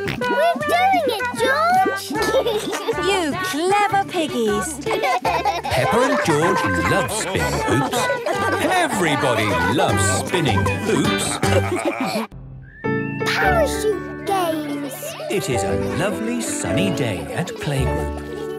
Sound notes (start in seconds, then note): 1.9 laughs; 4.9 both laugh